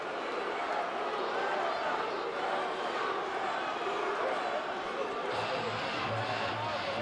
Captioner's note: crowd cheering